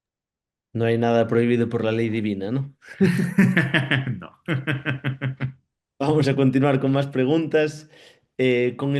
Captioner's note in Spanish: risas